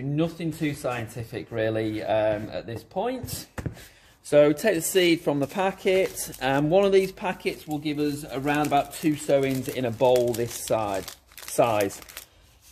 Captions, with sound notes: nothing too scientific really (soil shuffling) at this point. (pot thuds lightly) So, take the seed from the packet, and one of these packets (packet crunching) will give us around about two sowings in a bowl this size.